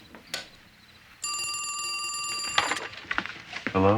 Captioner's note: phone rings